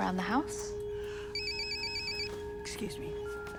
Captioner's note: phone ringing